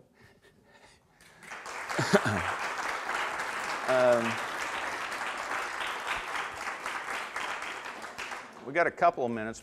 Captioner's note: audience applause